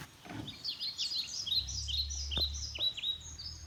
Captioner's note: gear clunks